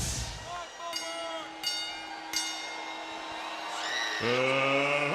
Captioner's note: bell ringing